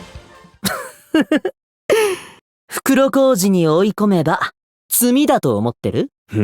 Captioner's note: chuckle